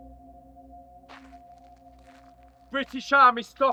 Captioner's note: shoes shuffling